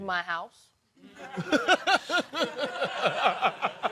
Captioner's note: laughter